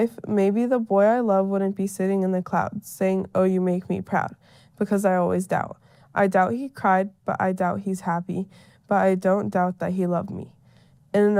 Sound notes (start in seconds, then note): none